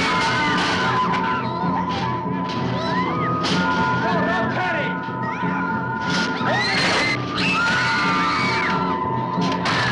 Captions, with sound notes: (suspenseful orchestral music) No, don't panic! (screaming)